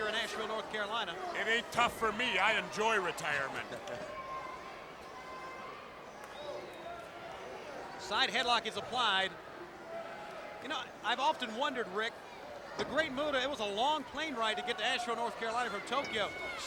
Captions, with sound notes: in Asheville, North Carolina. It ain't tough for me, I enjoy retirement. (crowd chattering) Side headlock is applied. You know, I've often wondered, Ric, The Great Muta, it was a long plane ride to get to Asheville, North Carolina from Tokyo.